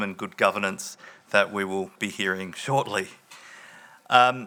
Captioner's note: none